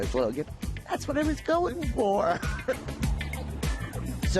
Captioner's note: laughs